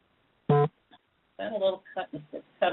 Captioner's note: beep